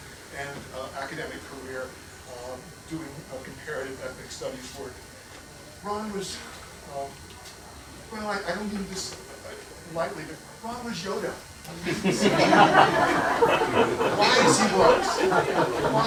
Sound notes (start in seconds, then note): 11.7 laughter